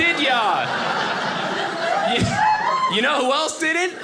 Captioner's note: audience laughing